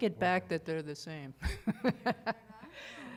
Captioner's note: laughter